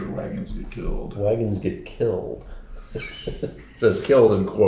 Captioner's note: laughs